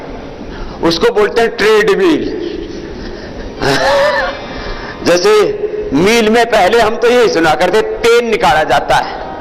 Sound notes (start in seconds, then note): 2.4 laughter